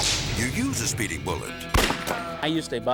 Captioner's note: whip cracks; gun fires